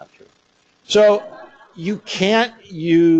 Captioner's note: laughter